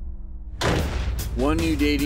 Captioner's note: door slams shut